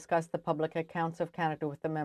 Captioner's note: speaking French